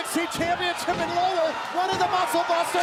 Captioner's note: crowd cheering